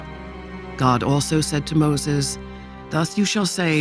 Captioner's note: none